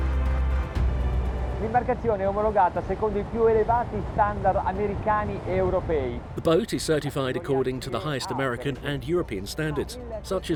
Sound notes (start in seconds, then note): 1.9 speaking in foreign language